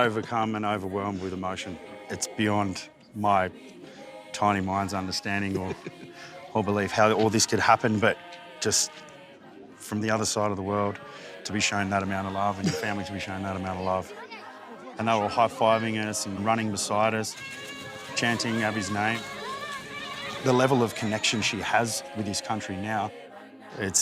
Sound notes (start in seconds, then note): 19.7 children yelling happily